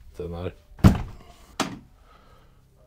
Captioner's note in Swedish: Dörr öppnas hårt